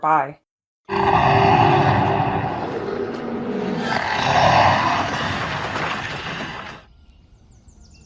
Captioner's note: beast roar